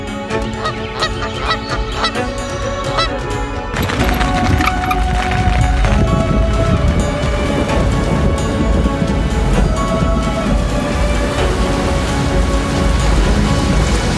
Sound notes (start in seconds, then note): 6.4 suspenseful music; 8.4 rain pattering; 8.4 thunder rumbles